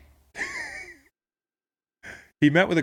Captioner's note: laughing